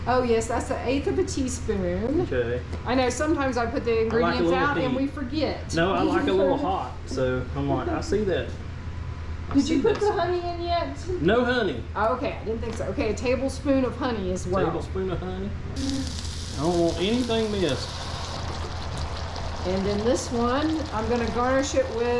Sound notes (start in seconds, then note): 5.6 laughs